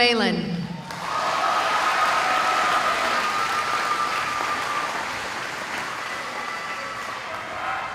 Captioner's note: cheering